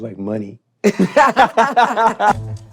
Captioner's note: all laughing